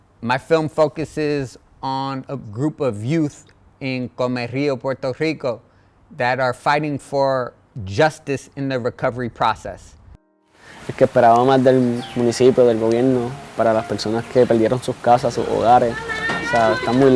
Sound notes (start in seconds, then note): 10.2 spanish dialogue